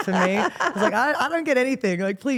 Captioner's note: Steph laughs